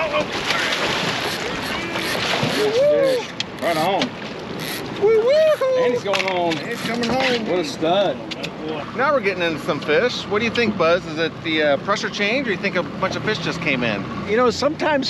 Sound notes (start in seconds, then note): 0.0 fish splashing; 4.1 fish splashing; 4.9 whooping